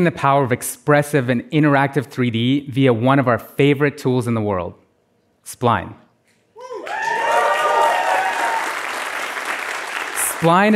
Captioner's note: applause